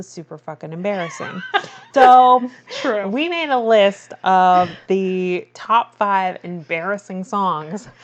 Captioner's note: laughs